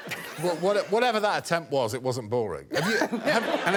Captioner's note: laughter